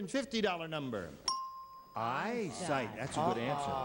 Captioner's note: bell rings